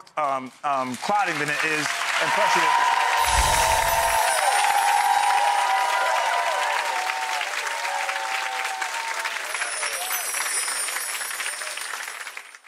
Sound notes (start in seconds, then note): 0.1 audience applauds and cheers; 3.2 twinkling chimes; 3.2 air whooshes; 9.3 twinkling chimes